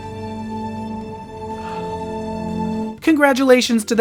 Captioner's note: kissing